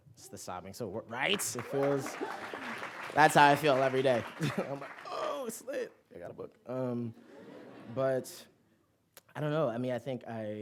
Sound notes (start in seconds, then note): 1.1 applause